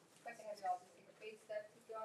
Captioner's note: speaks faintly